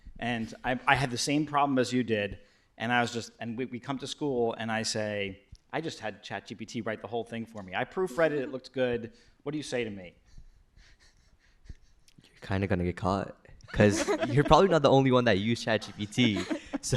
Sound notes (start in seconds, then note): 13.7 laughter